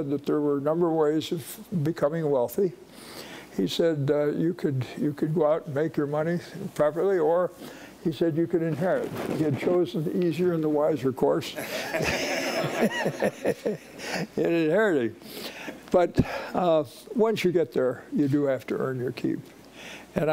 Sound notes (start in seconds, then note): 11.6 laughing